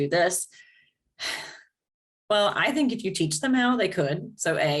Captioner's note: sigh